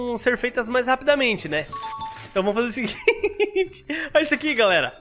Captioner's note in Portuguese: risos